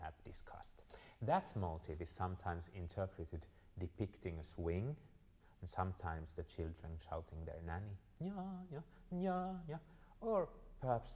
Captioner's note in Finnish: venäjäksi